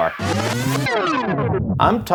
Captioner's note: record scratching